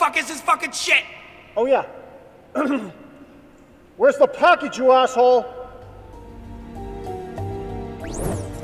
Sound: clears throat

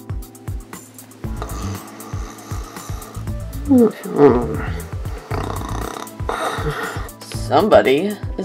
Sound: Mr.White snoring

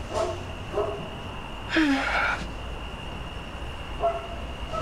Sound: sighing

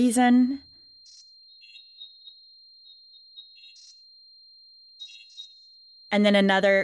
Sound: tone, beeps, chirps

